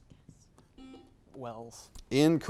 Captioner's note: buzzer beeps